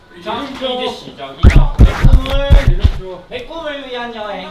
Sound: Cat WOONGIE scratching

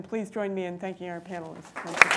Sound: applause

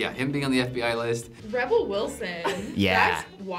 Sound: laughs

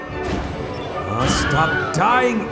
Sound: Wilhelm scream

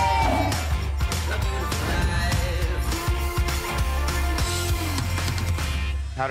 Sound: air whooshes

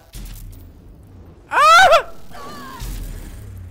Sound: screams

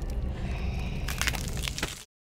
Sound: bones crunching

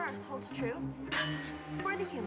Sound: clangs

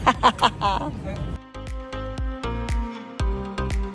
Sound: laughs; upbeat music continues

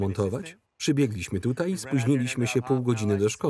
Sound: laughs

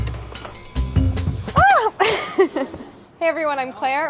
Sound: upbeat jazzy music; yelps; chuckles

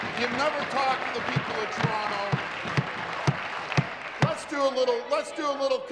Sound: applause

